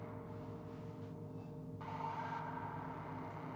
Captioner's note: none